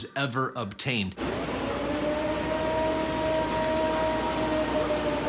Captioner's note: recording howling